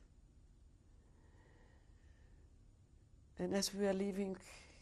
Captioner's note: pauses for 3 seconds